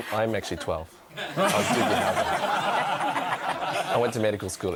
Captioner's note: audience laughs